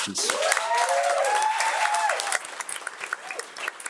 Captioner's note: audience cheering